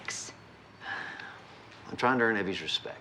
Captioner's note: sighs